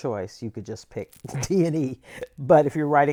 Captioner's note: laughter